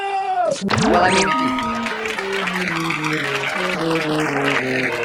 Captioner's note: audience applauding